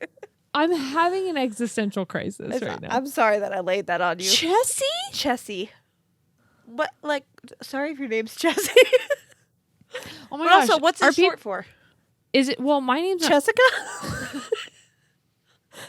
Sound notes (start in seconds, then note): 9.6 laughs; 13.6 laugh